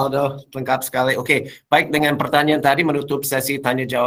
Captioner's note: non-english speech